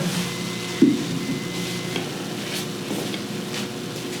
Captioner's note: microwave beeps